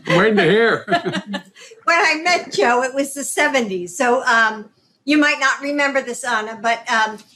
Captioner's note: laughter